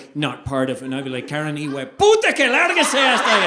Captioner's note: speaking Spanish